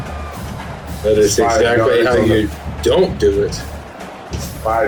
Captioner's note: crowd Noises